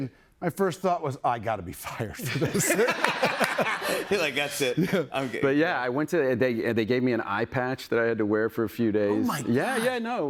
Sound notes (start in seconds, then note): 2.2 laughter